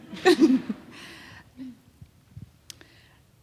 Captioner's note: laughing